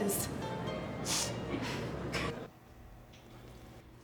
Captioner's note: loud Sniff